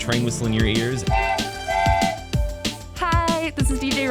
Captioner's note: train whistles